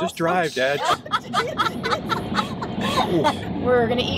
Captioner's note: all laughing